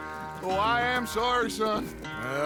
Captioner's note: gets off his horse and laughs